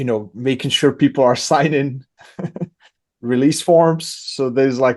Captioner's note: laughs